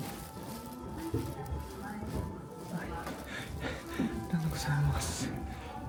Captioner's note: I gasped